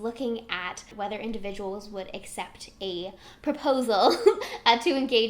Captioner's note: giggles